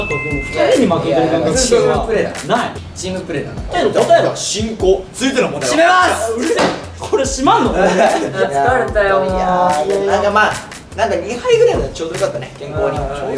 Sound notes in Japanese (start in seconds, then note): 6.1 大声; 6.5 ダンッ！：効果音